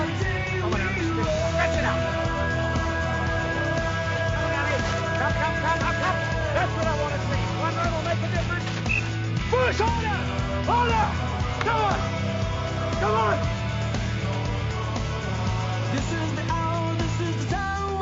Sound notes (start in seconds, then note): 4.7 shouting and whistling